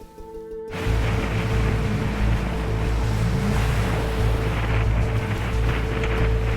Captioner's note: engine rumbling; wind whipping